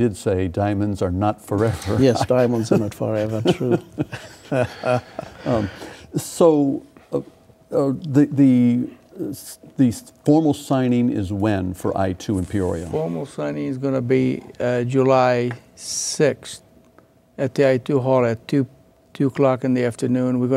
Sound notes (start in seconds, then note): 5.6 laughing